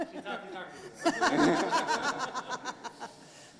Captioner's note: laughing